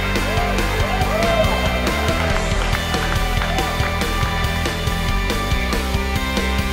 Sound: clapping and cheering

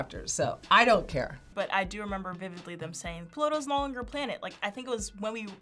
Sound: none

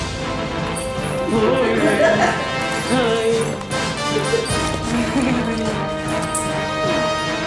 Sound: laughter

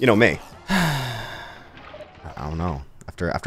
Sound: sighing

